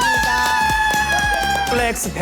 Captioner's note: gaaaaaaaaaah